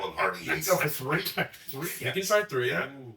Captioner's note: laughs